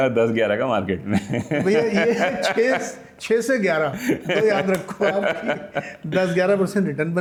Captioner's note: laughter; laughter